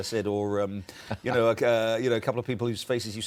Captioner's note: laughter